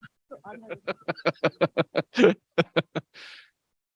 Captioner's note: laughs